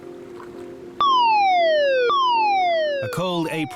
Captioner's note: gentle ambient music; siren blaring